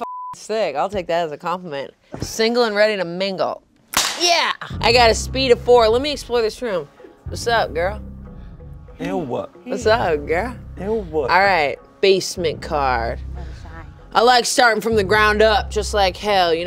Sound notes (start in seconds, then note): 0.0 beep; 3.9 whip snapping